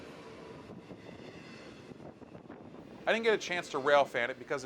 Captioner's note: plane engine roaring